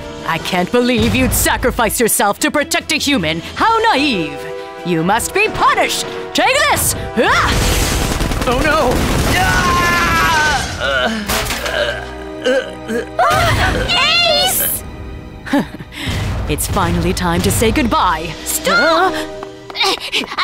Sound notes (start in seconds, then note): 9.2 Ace screams; 13.0 both gasp; 15.4 Queen chuckles menacingly